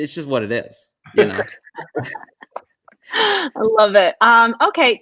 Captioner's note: laughter